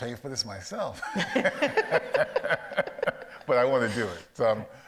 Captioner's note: audience laughs